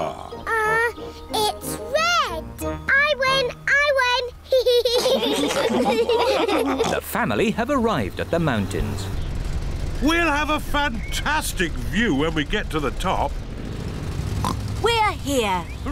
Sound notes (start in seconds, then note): 4.5 all laugh; 14.4 oinks